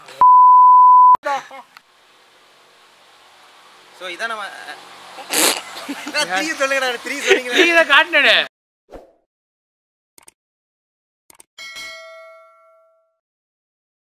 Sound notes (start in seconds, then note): 5.2 laughter